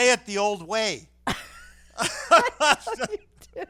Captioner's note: laughing